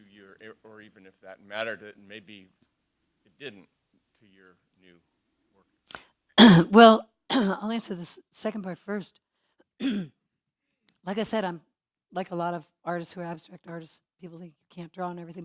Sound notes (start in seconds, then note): 6.1 cough